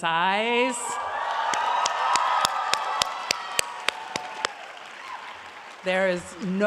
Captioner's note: audience applauds